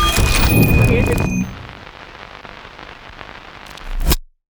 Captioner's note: static crackling